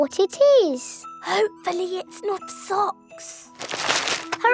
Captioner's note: whispering